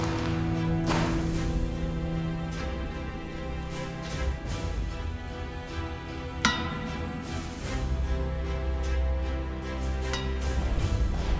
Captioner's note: dramatic music; footsteps